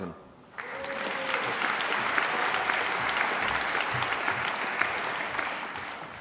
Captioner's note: applause